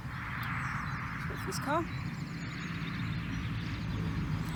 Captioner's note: waits for car noise to pass